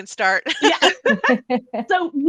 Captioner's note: laughing